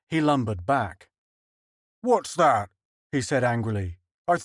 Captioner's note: london accent